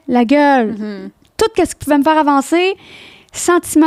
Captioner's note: in french